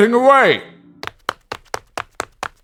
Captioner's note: footsteps running